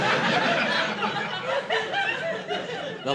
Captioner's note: laughter